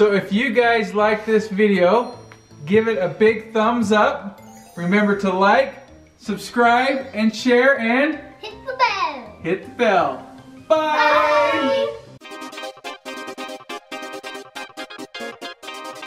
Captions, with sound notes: If you guys like this video, give it a big thumbs up and remember to like, subscribe, share, and-- - Hit the bell. - Hit the bell. - [All Shout] Bye! (electronic music)